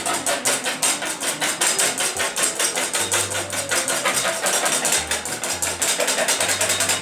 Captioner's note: whipping